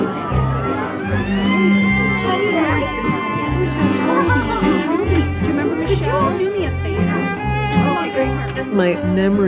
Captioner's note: chatter